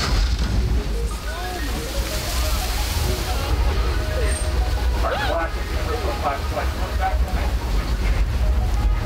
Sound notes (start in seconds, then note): 1.0 people chattering